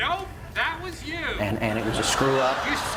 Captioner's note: laughter